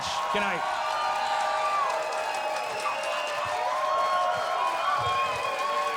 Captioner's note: audience cheers and applauds